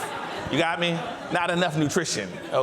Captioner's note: audience laughs